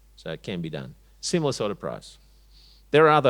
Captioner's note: none